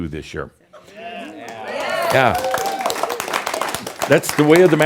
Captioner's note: audience says “Yeah!” and some applause